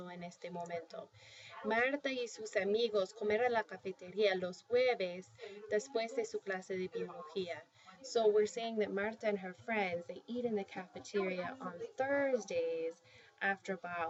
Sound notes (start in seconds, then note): 0.0 spanish; 0.0 speaking spanish